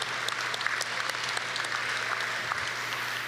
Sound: applause

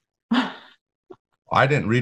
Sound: laughs

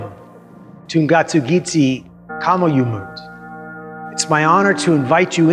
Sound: speaks in inuktitut

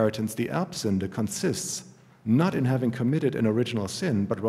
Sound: german

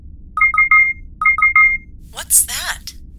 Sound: beeps

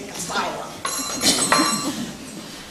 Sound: door chimes

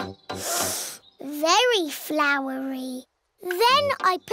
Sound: sniffs

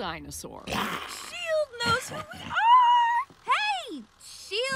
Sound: grunts

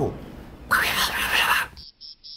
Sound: whisper

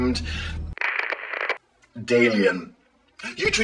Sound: static crackles

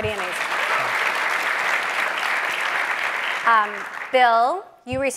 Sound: people clapping

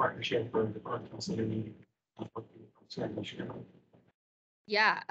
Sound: speaking faintly

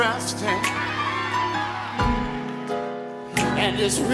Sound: audience screaming

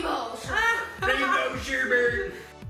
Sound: laughing

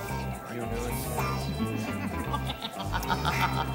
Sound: murmuring; Brett laughing

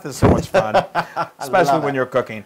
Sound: laugh

